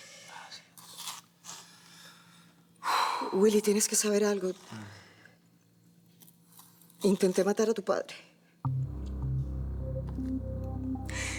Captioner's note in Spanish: Él exhala